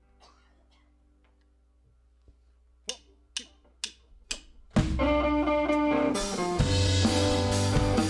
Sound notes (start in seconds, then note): 2.8 tick, tick, tick, tick of drumsticks